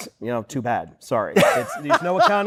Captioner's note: laughing